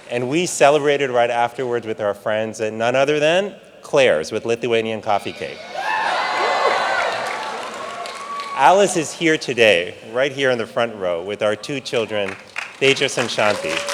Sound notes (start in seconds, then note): 5.3 audience cheering; 13.7 audience clapping and cheering